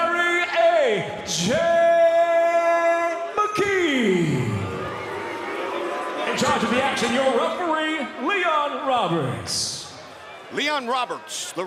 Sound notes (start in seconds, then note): 4.2 audience boos